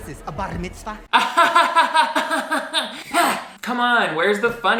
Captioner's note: laughs